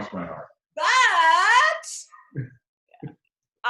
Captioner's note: chuckles